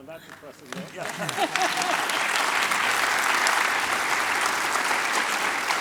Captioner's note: audience applauds